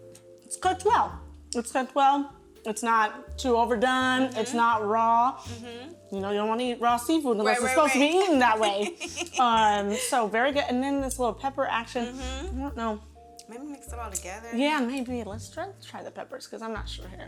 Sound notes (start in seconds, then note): 7.5 laughs